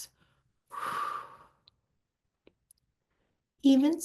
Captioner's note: exhaling